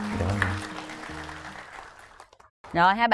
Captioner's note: applause